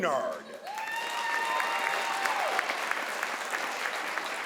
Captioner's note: crowd applauds